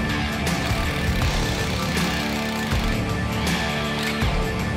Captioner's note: drill clanging